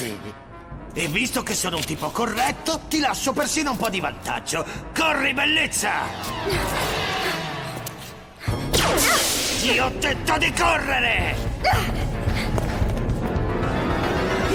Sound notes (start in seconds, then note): 8.8 laser gunfire